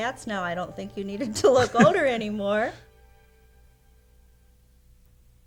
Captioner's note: laughs